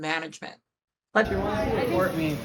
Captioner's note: people chattering